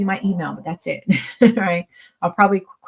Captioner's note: chuckles